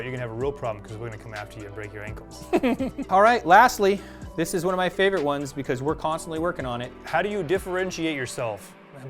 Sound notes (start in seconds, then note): 2.4 chuckles